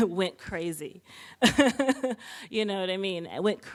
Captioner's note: laughing